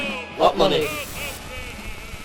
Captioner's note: crowd